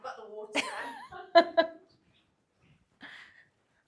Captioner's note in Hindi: हंसी